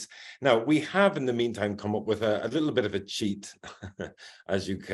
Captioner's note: chuckles